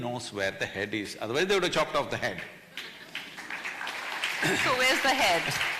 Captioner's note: applause